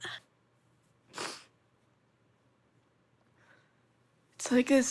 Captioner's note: sniffles